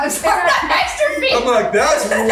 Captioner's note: laughs